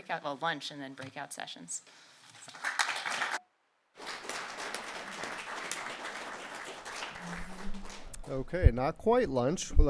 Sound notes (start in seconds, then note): 2.1 applause